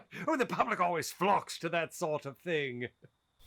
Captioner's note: none